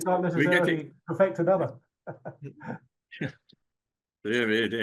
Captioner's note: chuckles